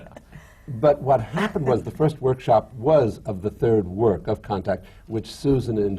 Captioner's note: laughter